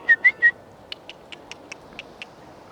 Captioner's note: whistling